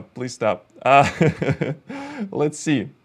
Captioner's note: laughs